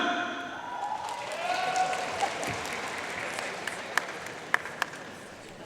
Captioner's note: audience cheering and applauding